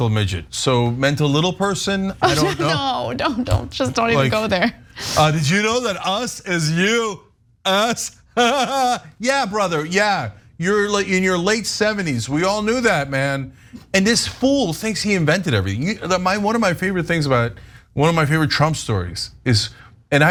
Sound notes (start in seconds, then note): 2.2 laugh; 8.2 laugh